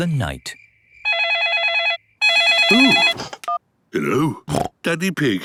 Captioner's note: owl hooting; phone ringing; snorting